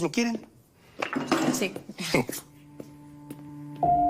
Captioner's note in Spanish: Ruido en la cocina